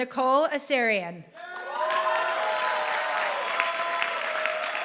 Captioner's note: applause